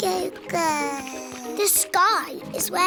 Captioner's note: babbles